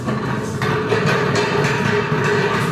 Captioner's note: rattling